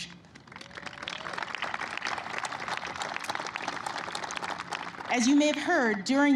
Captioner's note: applause